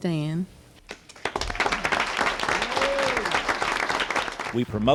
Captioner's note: applause